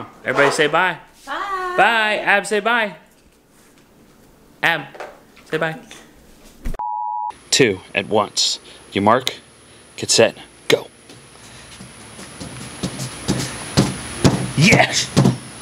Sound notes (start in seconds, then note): 6.8 beep; 12.1 thumping noises